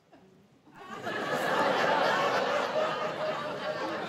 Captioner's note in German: Gelächter